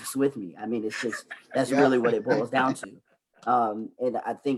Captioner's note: laughs